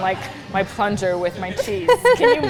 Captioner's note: laughs